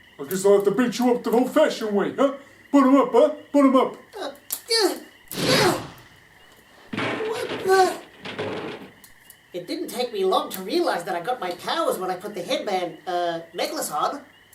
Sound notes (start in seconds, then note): 5.3 crash!